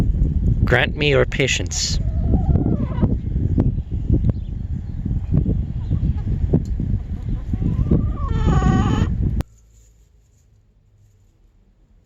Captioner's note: chicken sounds